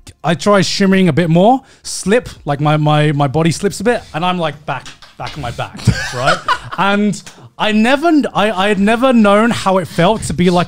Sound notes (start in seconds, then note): 5.7 laughing